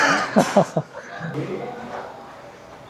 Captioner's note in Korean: 웃음